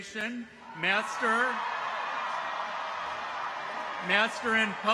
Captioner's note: people cheer